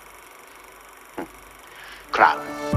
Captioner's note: chuckling